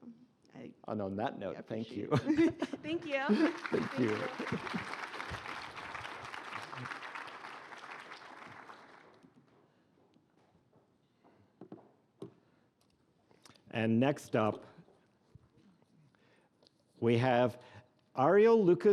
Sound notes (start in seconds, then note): 4.8 applause